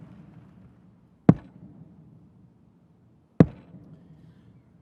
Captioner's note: mace taps